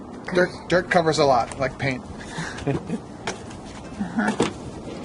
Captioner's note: giggling